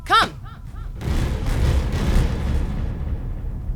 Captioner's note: excited stomping